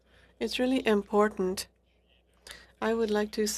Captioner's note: speaking French